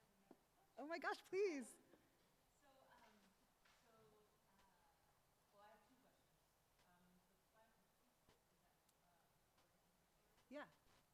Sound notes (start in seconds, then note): 7.9 speaks faintly